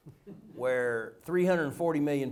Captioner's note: laughter